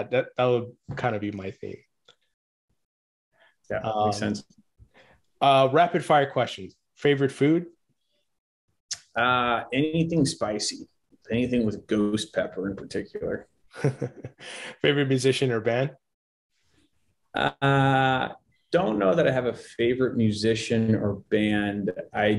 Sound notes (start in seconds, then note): 13.7 chuckles